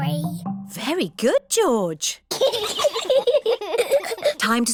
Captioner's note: both giggle